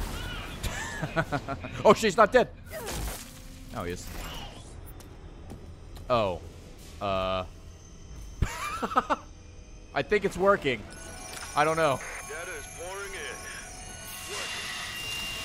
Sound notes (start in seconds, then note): 0.6 laughs; 8.5 laughs